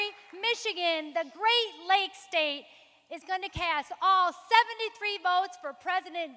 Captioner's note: applause